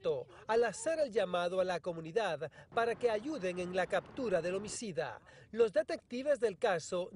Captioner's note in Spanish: habla en ingés